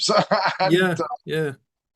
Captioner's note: laughs